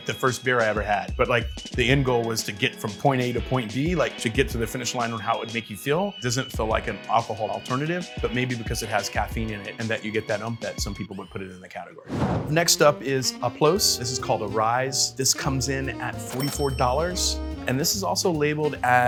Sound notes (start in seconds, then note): 12.0 graphic whooshing; 12.5 smooth jazz music; 16.3 register bell rings